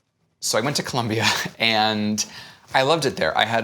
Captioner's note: laughs